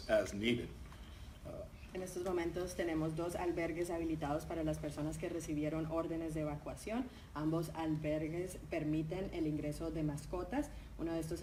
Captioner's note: speaking in Spanish